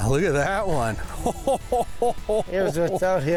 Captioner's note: laughs